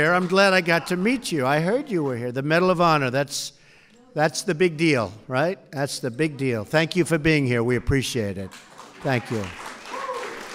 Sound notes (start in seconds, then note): 8.4 applause